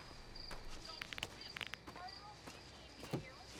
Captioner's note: cracks neck